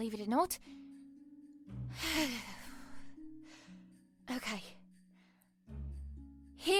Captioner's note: deep breath